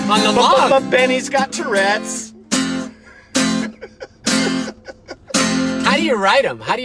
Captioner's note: laughing